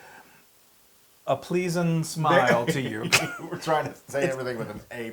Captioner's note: laugh